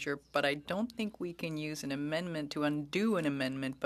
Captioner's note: speaking French